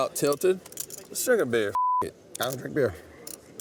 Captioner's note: beep